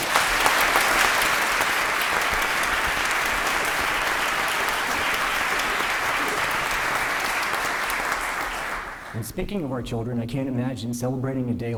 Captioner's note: applause